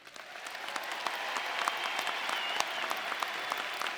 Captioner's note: audience applauding